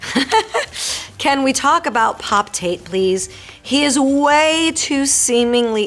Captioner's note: Marisol laughing; Marisol reading fan letter aloud